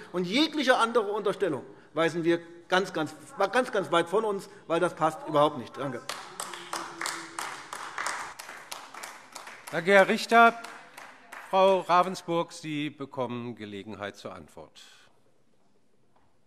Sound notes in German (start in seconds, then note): 5.9 Beifall AfD